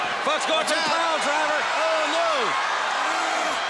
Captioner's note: crowd chatter